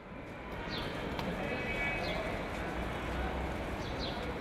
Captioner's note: urban noises